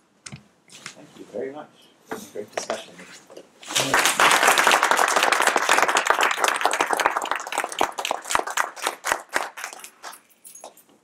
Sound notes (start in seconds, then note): 6.7 applause